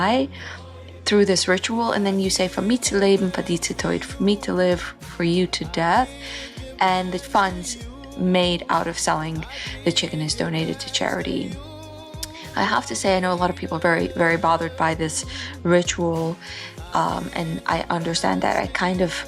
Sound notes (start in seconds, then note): 2.5 Yiddish